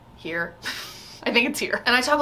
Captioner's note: laughs